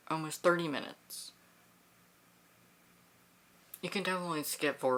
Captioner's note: silence